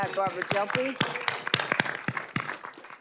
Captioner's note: audience applauding